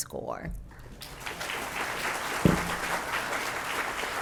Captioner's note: audience clapping